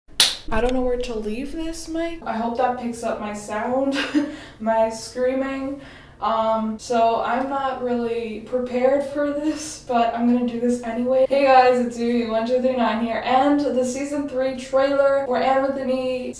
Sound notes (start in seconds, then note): 0.2 claps; 4.7 laughs